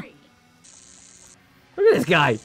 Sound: zaps

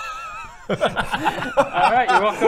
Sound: resigned giggles

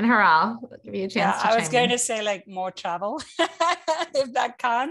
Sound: laugh

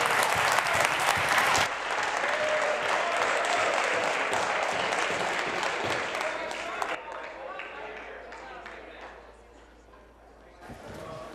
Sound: applause

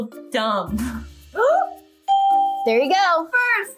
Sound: gasps; bell rings

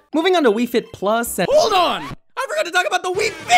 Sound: record scratch

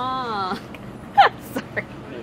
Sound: laughs

